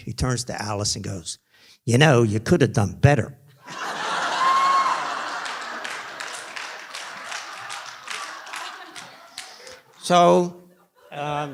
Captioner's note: laughter